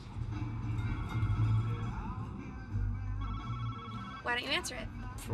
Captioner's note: phone ringing